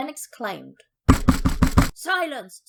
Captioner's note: bang